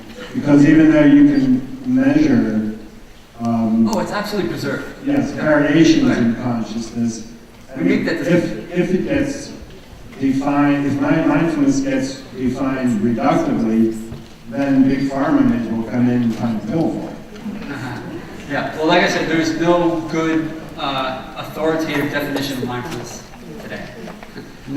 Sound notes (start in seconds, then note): 4.9 voiceover